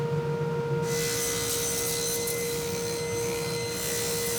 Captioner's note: sawing